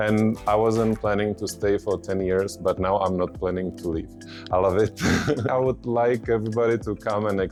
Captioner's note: laughing